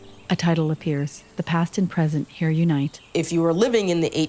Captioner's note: birds chirping